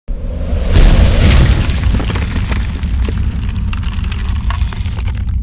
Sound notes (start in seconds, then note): 0.3 whooshing; 1.1 thudding